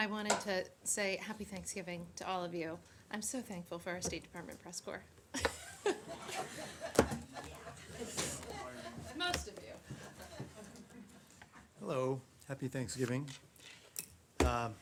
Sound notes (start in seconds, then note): 5.3 laughter